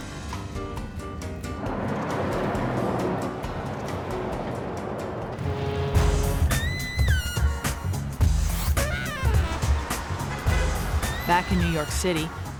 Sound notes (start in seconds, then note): 0.1 quirky upbeat music; 5.7 siren blows; 7.0 uptempo music